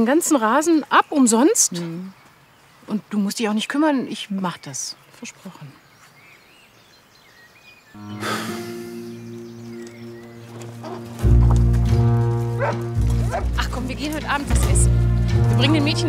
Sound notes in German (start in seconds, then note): 8.1 Er seufzt; 10.9 Gemächliche Musik